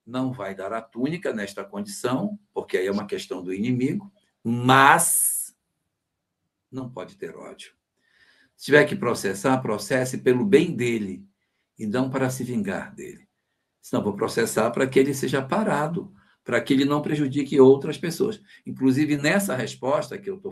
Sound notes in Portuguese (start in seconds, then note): none